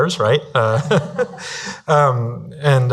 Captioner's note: laughing